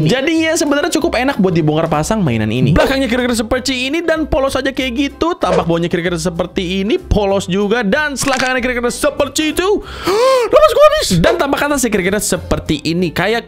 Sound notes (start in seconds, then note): 9.8 sighs